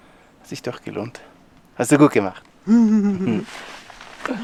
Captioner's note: laughter